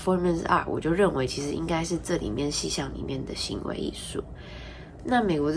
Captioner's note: in Mandarin